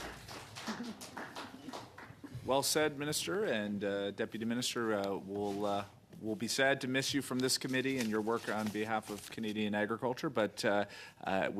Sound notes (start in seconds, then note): 2.5 applause